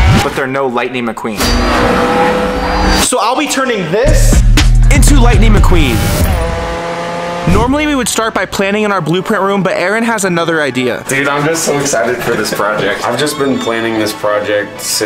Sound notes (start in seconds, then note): 0.0 engine revving; 1.4 engine revving; 6.3 engine revving